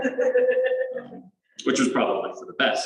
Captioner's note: laughter